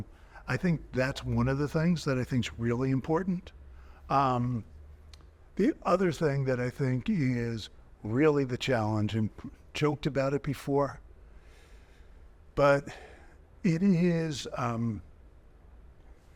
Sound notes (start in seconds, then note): none